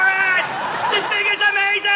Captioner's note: audience laughing